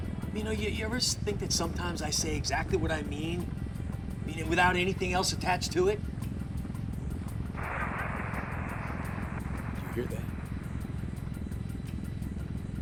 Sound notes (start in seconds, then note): 7.5 static